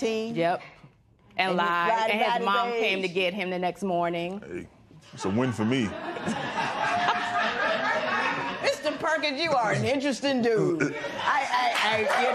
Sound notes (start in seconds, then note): 5.3 laughter